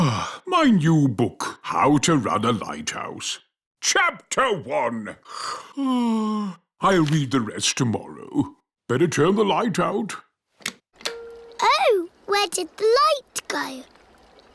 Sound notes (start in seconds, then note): 5.4 yawns